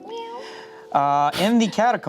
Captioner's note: meows